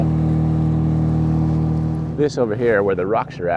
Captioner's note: boat rumbling